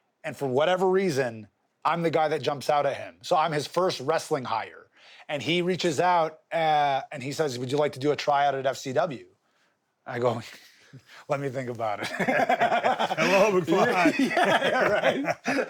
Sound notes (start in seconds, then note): 12.0 laughs; 15.4 Steve laughs